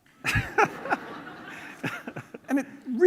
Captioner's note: laughter